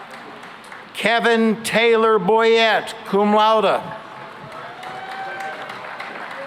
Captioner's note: cheering and applause